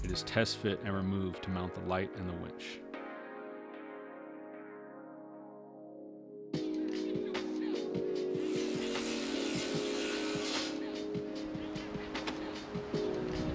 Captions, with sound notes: it is test fit and removed to mount the light and the winch. (bright upbeat music) (driller grinding) (bright upbeat music)